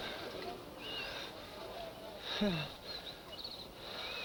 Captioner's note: Chota sighs nervously